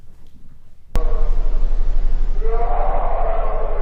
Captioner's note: ominous roaring